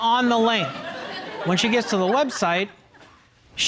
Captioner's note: audience chuckling